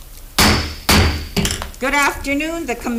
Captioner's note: gavel bangs